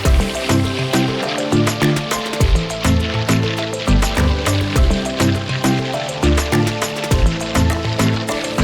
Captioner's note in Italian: Applauso